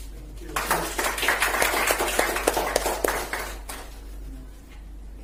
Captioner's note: clapping in the background